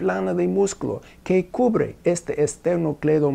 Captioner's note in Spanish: Arabic